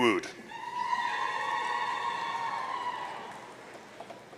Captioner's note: audience cheering